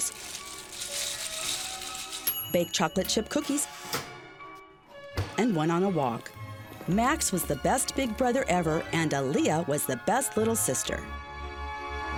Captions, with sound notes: (blocks clattering) (bell dinging) baked chocolate chip cookies, and went on a walk. Max was the best big brother ever and Aaliyah was the best little sister.